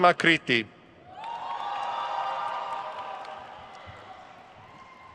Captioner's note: crowd cheers